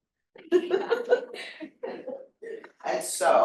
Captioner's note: audience laughing